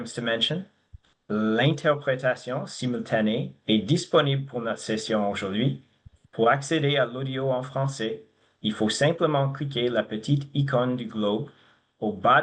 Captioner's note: speaking French